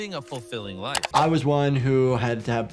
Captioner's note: mouse clicking